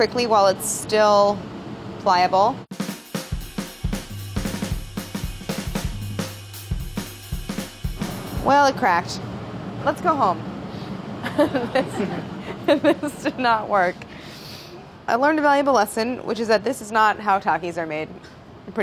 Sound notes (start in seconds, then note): 2.7 upbeat drumming; 11.2 laughs